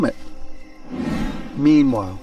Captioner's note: slide swooshing